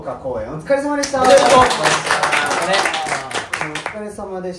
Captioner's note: clapping